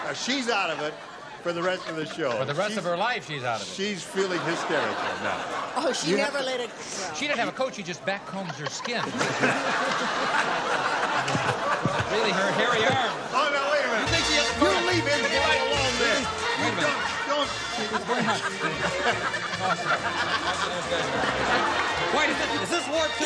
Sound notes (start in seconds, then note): 10.5 laughter; 19.3 laughter